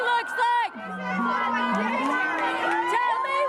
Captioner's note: chants; unison chant